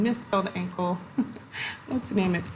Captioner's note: giggles